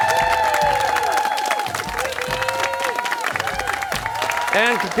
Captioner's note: cheers and applause